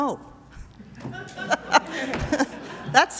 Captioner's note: laughter